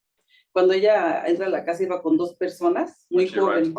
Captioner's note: speaking Spanish